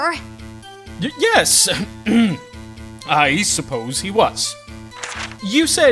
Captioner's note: ahem!